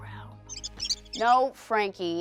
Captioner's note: squeaking